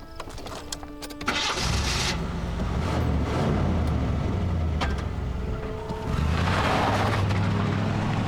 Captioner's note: revs engine